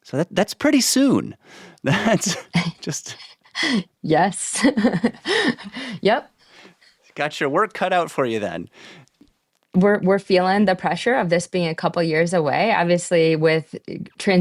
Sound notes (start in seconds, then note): 1.8 laughs